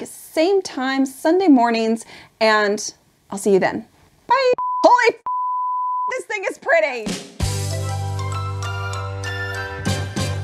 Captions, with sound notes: Same time, Sunday mornings. And I'll see you then. Bye! (beep) Holy (beep) this thing is pretty! (upbeat music)